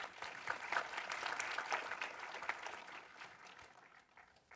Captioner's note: audience applauding